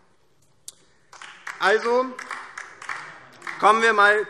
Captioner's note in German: Beifall DIE LINKE